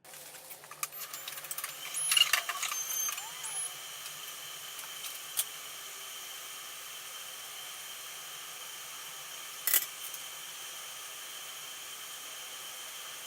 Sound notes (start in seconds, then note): 0.7 device humming and beeping